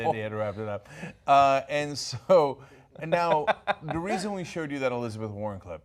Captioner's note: laughter